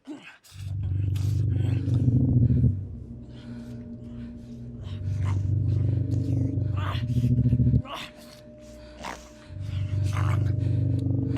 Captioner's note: noises, like an animal eating, and animalistic grunting